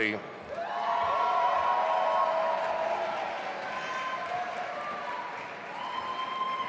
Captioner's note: audience applauding and cheering